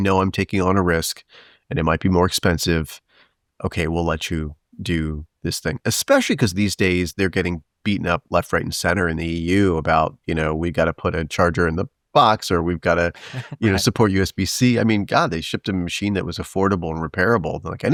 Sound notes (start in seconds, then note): 13.1 chuckles